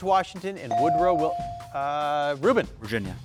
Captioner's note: bell dings